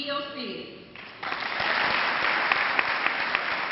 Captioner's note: clapping